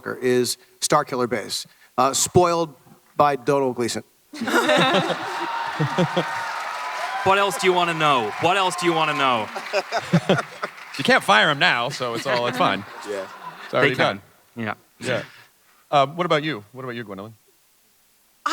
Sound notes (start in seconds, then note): 4.3 laughter; 4.4 audience clapping